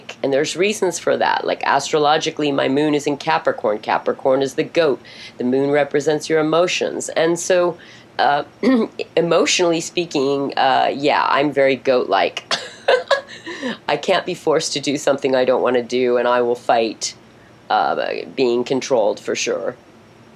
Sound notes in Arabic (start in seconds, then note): 12.5 يضحك